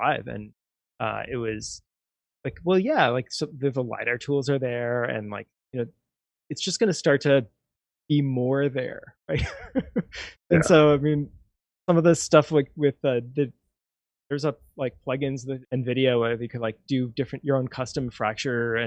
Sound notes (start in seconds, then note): 10.5 laughs